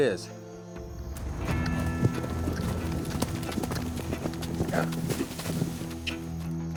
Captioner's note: hoofbeats; suspense music